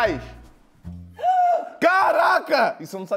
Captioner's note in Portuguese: faz som de surpresa